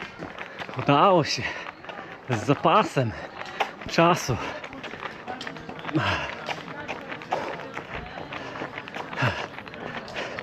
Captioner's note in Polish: Aplauz